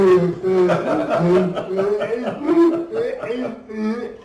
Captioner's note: laughing